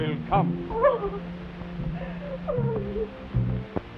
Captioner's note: Dorothy whimpers; soft orchestral music